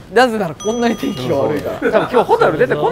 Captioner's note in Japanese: 効果音 チーン